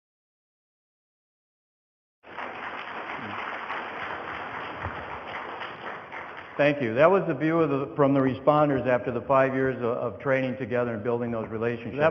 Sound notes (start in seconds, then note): 2.2 audience applause